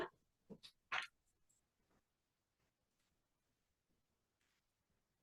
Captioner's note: paper flapping continues